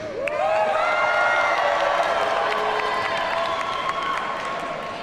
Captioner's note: audience cheers and applauds